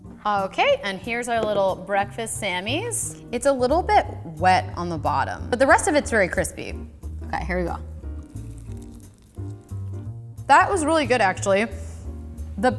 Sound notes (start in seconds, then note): 0.0 mid tempo music; 8.0 crunching